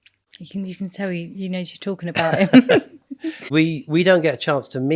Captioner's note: laughing